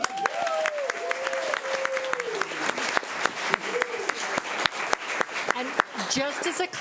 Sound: everyone applauding and cheering

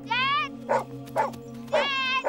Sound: barking

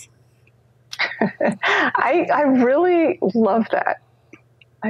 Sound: laughs

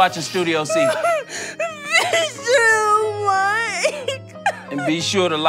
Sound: crying

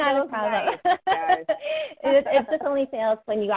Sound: laughing

